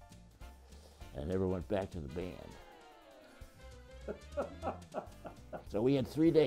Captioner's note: laughter